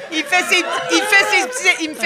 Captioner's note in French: rires